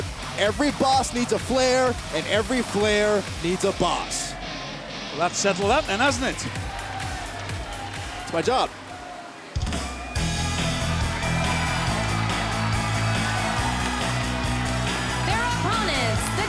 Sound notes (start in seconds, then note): 9.6 upbeat pop music; 9.7 crowd cheering